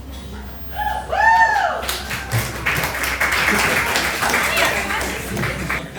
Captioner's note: audience cheering and clapping